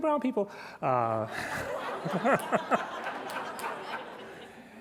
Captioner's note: laughter